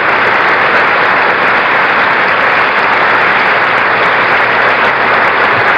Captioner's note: applause continues